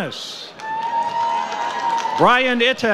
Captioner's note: audience cheers